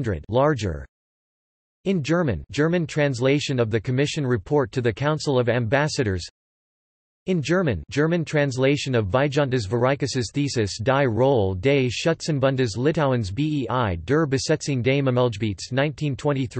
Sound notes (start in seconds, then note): 1.2 in German; 6.7 in German